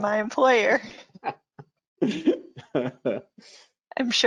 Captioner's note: laughs